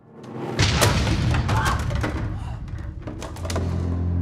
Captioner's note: loud racket from mannequin falling